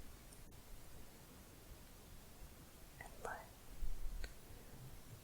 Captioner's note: none